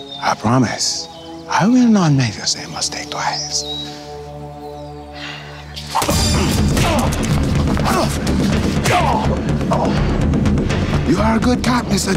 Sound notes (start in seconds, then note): 5.8 blows thudding; 5.9 intense music